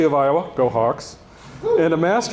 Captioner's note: attendee cheering